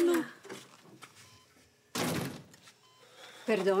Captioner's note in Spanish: sonido al abrir la puerta